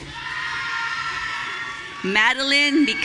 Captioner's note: audience cheering